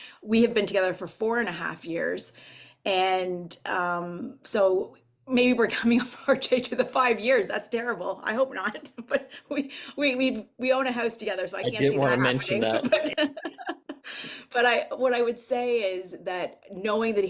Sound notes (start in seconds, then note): 13.2 laughs